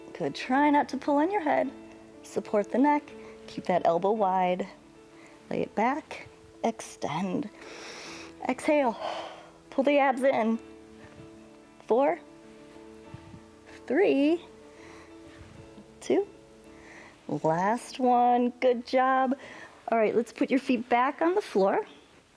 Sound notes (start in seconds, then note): 7.5 exhales; 7.6 inhales